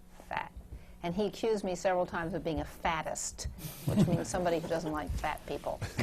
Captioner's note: laughter